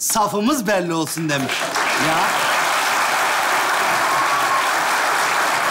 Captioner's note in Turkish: Alkış sesleri